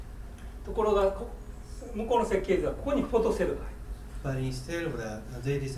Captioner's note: speaking in foreign language